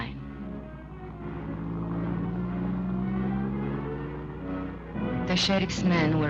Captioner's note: car engine revving